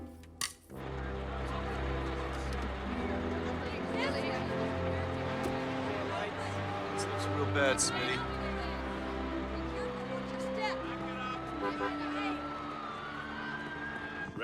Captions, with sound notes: (somber orchestral music) (background chatter) - This looks real bad, Smitty.